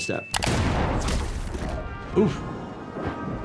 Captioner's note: gun fires